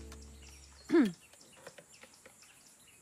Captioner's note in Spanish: Carraspea